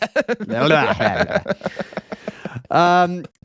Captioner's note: laughing